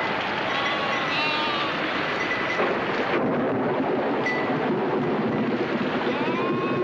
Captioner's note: thunder claps; wind howling